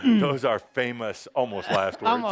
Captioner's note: laughs